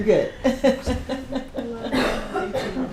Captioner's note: laughs